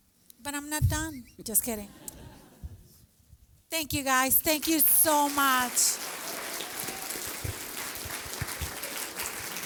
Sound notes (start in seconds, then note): 1.8 laughter; 4.5 applause